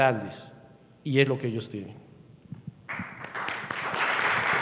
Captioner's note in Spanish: Aplausos